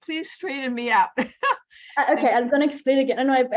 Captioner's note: laughs